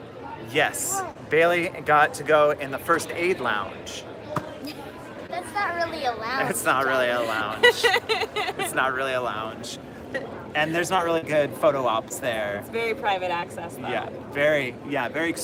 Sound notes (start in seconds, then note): 7.2 laughter; 10.4 laughter